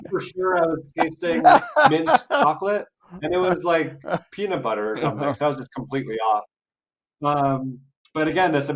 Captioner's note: laugh